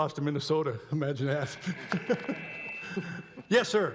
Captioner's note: laughs